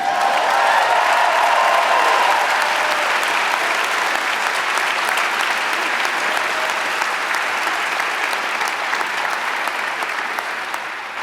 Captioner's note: applause